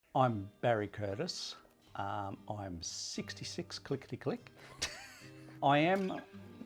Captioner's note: laughs